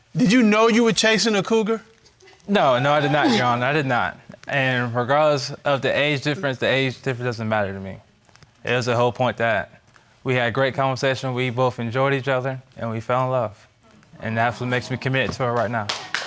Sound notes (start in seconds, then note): 2.5 audience laughing; 15.4 audience applauding